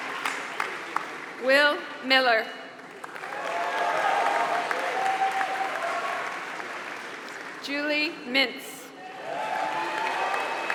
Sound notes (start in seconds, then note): 0.0 applause